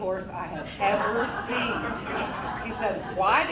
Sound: crowd laughing

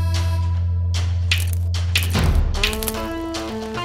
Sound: stones clatter

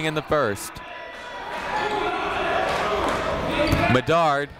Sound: chatter

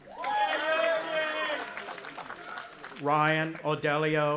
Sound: cheering

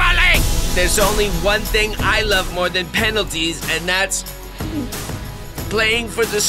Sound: gulping

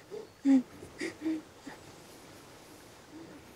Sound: panting

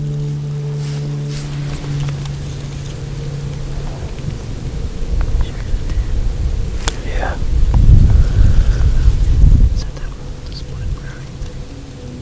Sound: sound of wind, whispered voices

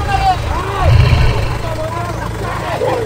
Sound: roaring

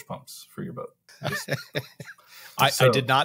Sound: laughs

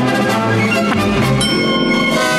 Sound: dinging

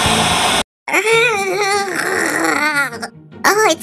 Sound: struggling Noises

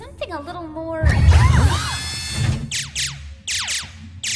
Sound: whirring

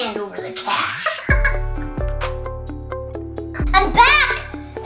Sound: laughs

